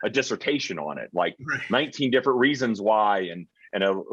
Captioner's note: chuckling